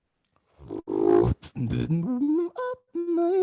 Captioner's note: beatboxing